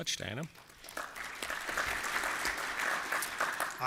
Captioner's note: applause